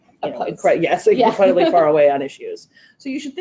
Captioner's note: laughter drowns out speaker